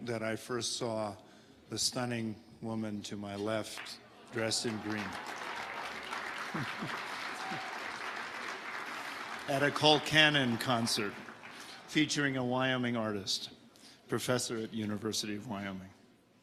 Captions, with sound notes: that I first saw the stunning woman to my left dressed in green, (audience applauding) at a Cole Cannon concert, featuring a Wyoming artist, professor at University of Wyoming.